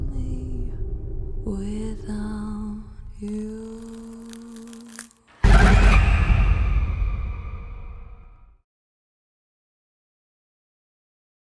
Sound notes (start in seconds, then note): 3.3 groans; 6.3 screams